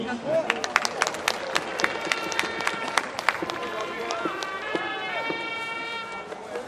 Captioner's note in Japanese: 拍手